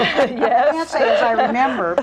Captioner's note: all laughing